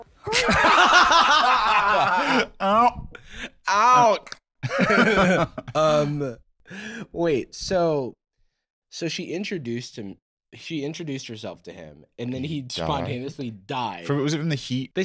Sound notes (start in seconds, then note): 0.2 both laughing; 4.2 clicks tongue